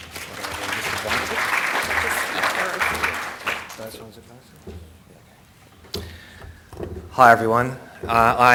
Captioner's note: applause